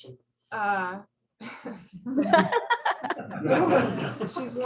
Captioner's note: laughter